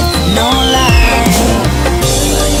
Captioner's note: biff!